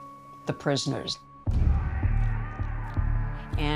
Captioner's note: people shouting